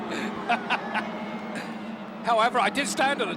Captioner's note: both laughing